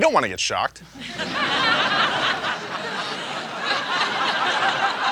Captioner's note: audience laughing